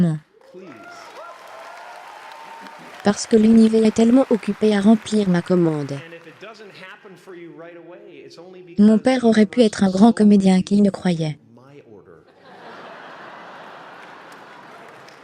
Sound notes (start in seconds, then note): 0.4 applauding; 12.2 laughing